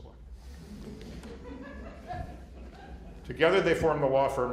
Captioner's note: laughter